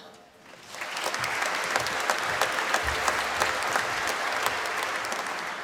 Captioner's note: applause